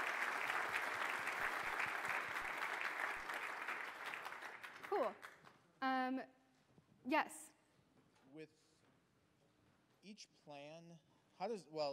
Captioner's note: applause